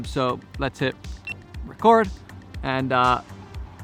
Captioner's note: beep